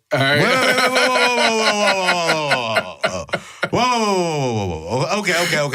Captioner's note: laughs